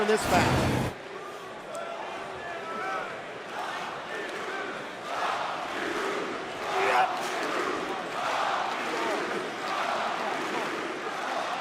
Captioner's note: crowd cheering